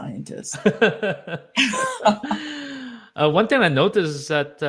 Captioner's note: both laughing